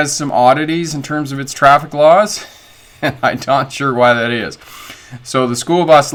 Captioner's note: chuckling